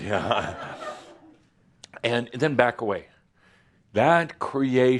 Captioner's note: some laughter